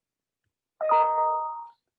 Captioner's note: computer chime